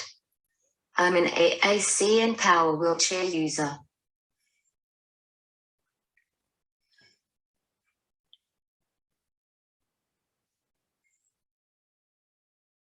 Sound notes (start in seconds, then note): none